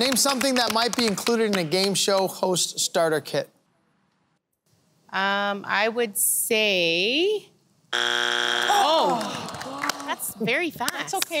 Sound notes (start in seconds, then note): 7.9 buzzer